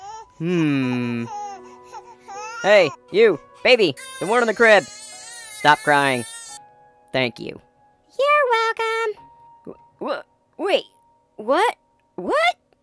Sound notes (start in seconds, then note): 0.0 baby Crying; 6.6 baby Stops Crying